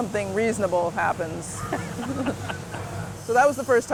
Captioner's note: all laugh